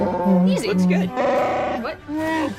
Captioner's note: Chewbacca sounds